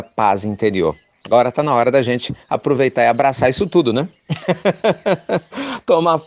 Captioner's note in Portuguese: risos